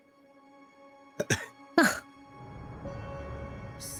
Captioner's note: laughs